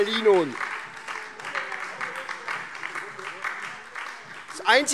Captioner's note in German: Beifall